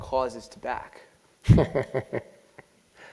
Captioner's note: laugh